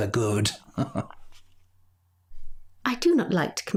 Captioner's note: laughing